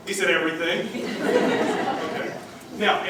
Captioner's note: laughter